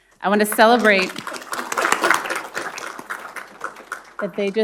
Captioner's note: everyone applauding